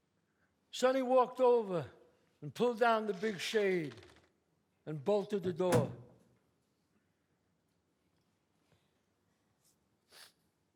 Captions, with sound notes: Sonny walked over and pulled down the big shade [curtain drawing sounds] and bolted the door. [thuds]